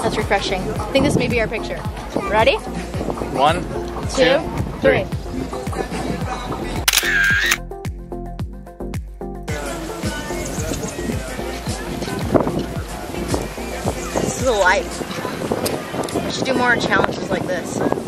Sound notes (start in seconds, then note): 6.8 camera clicks